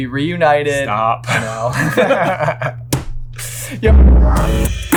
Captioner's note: laughs; outro Theme Music